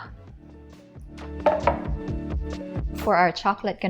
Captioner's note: bowl thuds